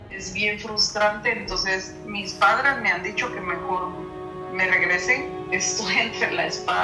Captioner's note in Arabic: تتحدث بلغة أجنبية